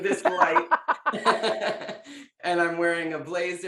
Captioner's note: laughing